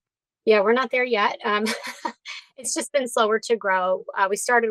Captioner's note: laughs